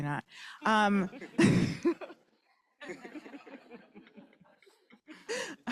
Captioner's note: laughter